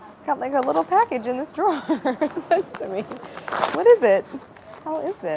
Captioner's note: laughs